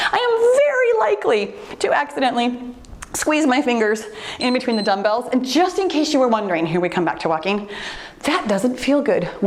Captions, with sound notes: I am very likely to accidentally squeeze my fingers (timer beeps) in between the dumbbells, and just in case you were wondering, here we come back to walking, that doesn't feel good,